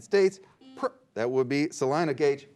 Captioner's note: beep